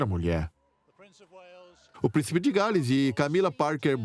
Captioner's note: voiceover